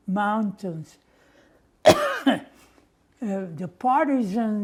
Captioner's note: coughing